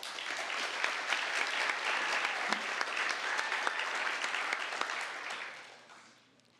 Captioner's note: applause